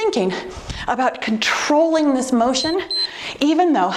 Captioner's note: timer beeps